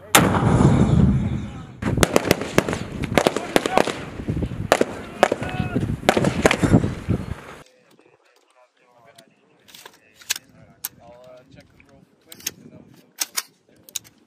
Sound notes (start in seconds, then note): 0.1 rockect-propelled grenade fires; 1.8 gunfire